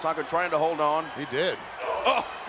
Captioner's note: Tatanka groaning